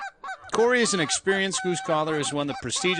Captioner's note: geese honking